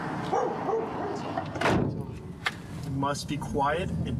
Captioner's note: dog barking